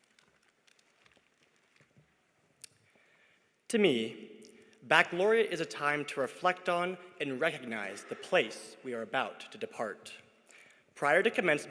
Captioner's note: applause